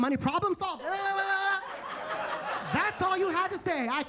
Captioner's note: attendees laughing